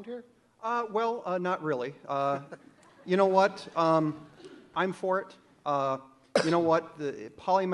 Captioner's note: audience laughs